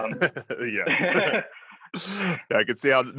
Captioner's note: laughs